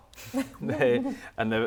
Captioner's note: laughter